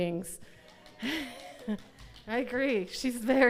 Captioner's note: audience applauds